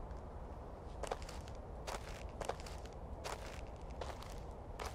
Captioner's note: wind howling